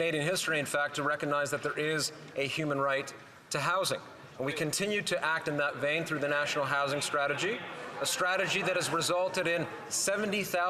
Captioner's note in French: voix de l'interprète